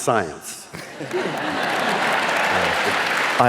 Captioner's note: laughing